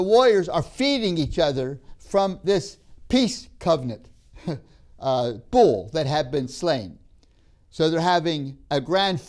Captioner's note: laughs